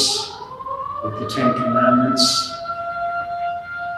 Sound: siren

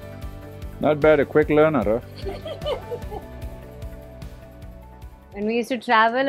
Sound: laughs

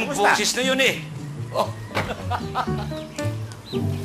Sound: laughs

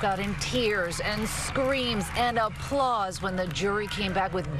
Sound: cheering

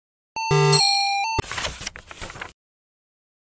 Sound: low quality 8-bit music; beep; sound of page turning

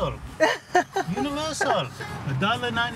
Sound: laughs

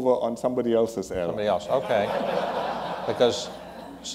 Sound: laughter

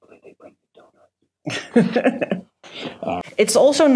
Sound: laughs

